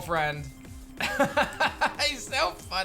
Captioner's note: laughs